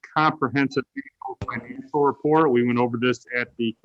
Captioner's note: speaks faintly